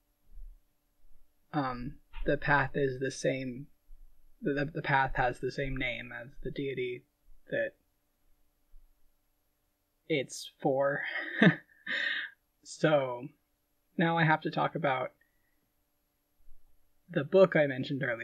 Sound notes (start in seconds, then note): 9.9 laughing